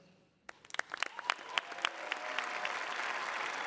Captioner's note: cheering